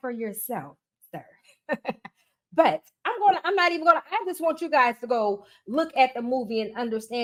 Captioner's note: giggles